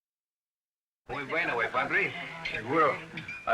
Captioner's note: speaking spanish